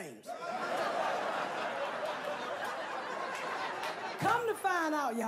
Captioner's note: crowd laughing